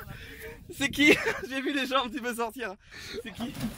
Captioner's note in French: rires